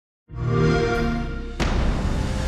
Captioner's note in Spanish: Sonido Xbox